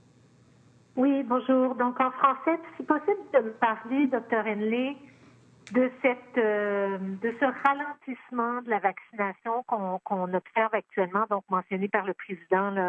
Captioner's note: speaking French